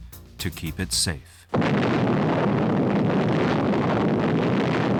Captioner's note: explosion